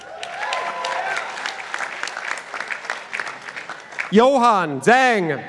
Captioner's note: participants applauding